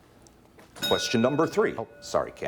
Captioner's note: bell dings